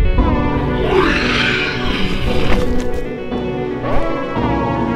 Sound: wyllie roars

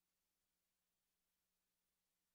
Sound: none

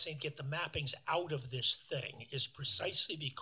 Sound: none

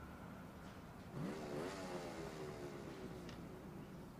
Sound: motorcycle revving

